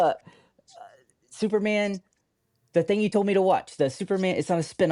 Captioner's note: laughs